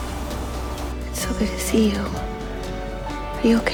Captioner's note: voiceover